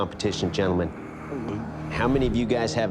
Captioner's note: exaggerated gulp